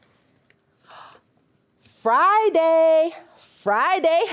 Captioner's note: gasps